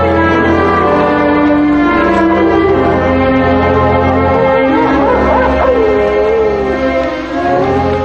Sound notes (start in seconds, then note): 3.9 coyotes howling